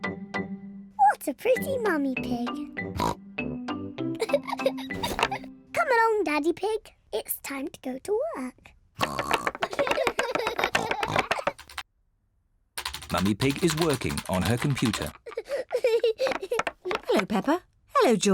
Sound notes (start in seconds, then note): 2.9 oinks; 4.2 chuckles; 9.0 both oinking and laughing; 14.2 peppa pig chuckling